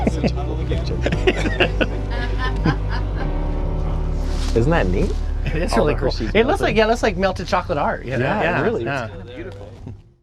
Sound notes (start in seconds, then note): 0.7 laughs; 0.8 off-camera laughing